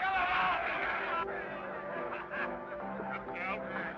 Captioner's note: men shout